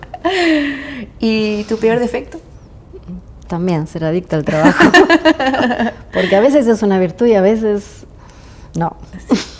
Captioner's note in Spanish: risas; risas